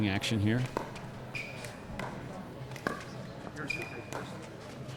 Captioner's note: ball clacking